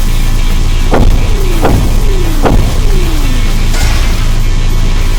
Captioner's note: electricity crackling; steps thudding; armor clanks